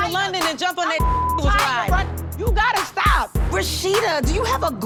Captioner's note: beep